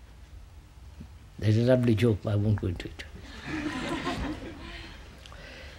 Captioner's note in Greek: γέλια